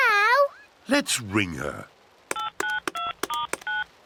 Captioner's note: phone beeps